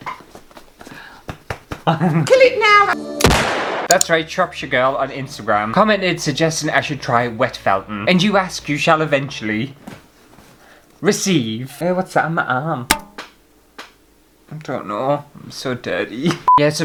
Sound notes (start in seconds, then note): 3.2 bang!